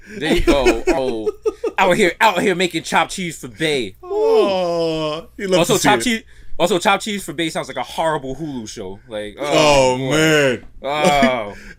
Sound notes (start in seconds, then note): 0.1 laughs